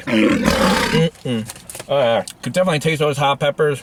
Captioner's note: lion roaring